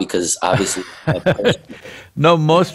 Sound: Sadhguru laughs

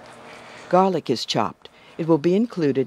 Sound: voiceover

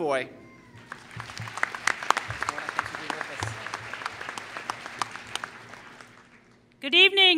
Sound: applause

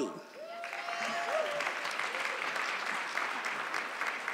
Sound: audience clapping

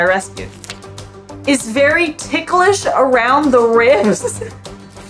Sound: background music; laughs; background music

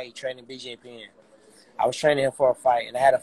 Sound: voice is muffled

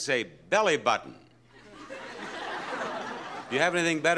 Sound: audience laughs

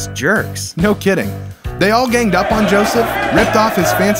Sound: crowd yelling

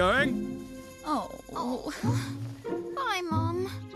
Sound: moaning

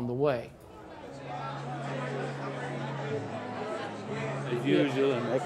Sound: congregation chatting

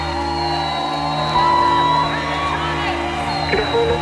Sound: answer machine beeping

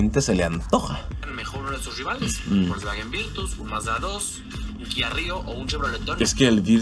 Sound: man speaking in Spanish

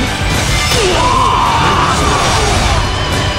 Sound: KO Scream

